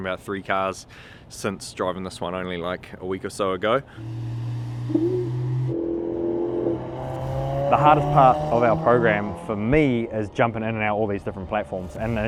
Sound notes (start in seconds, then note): 4.0 car revving